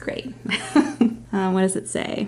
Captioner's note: laughs